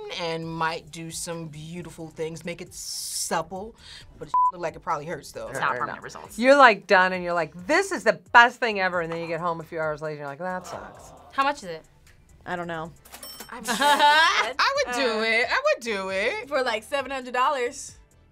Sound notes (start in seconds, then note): 10.7 crowd; 13.1 cash register dings